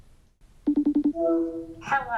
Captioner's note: ring beeps